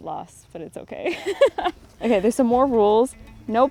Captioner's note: laughs